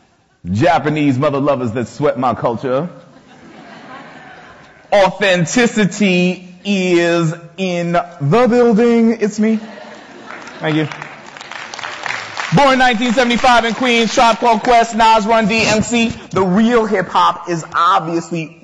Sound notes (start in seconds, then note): 9.6 audience laughter, light applause